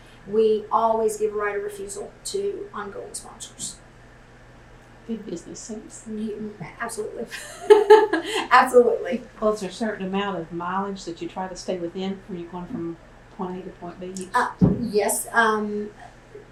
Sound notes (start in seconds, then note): 7.3 laughs